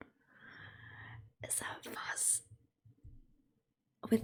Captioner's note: whispers